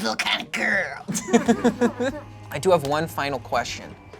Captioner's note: laughs